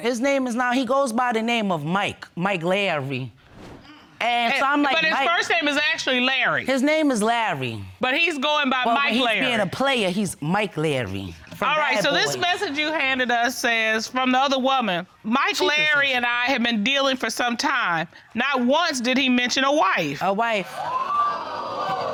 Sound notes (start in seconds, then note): 15.4 judge dana reading